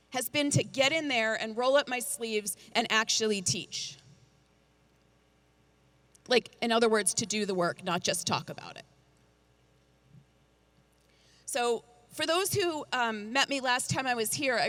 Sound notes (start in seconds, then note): none